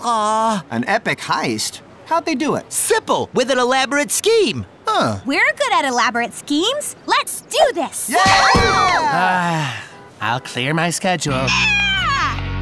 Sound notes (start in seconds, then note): 8.6 sighs